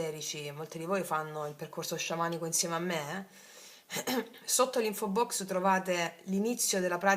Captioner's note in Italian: schiarire la voce